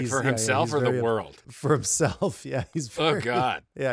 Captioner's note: laughing